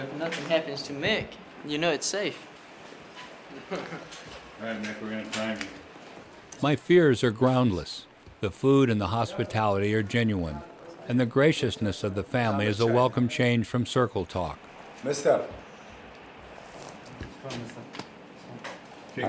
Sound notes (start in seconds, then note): 3.5 laughs; 6.7 voiceover